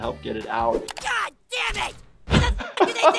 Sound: computer mouse clicks; door slams

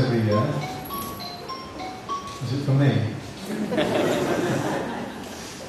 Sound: phone rings

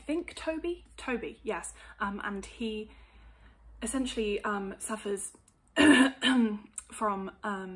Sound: coughs

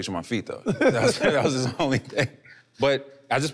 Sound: laughing amusingly

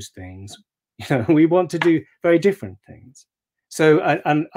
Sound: chuckling

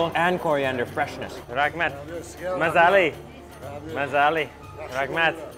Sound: in foreign language

